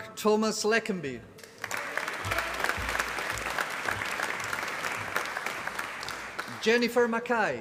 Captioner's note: applause